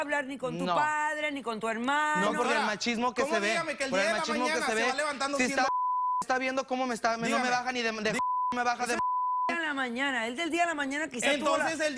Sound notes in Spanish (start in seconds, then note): 9.2 Bip